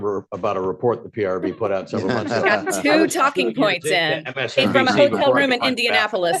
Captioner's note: laughter